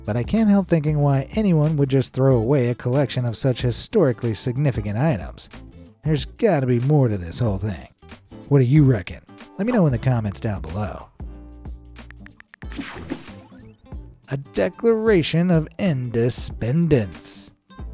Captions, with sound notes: But I can't help thinking why anyone would just throw away a collection of such historically significant items. There's gotta be more to this whole thing. What do you reckon? Let me know in the comments down below. (cell phone keyboard clicking) A Declaration of Inde-spend-ence.